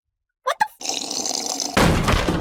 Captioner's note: loudass slurp noises